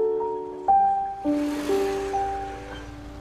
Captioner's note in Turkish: Araba sesi